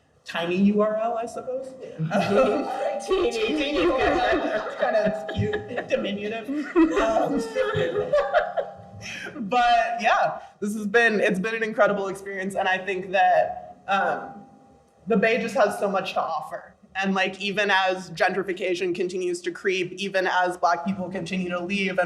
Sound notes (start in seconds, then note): 2.2 group laughs; 7.6 laughs